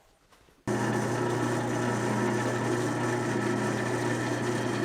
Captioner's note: machine running